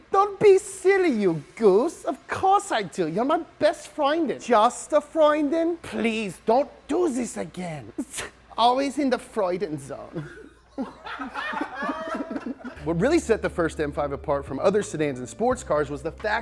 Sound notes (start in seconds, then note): 8.0 huffs; 10.4 film crew and laugh